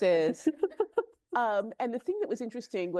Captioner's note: chuckles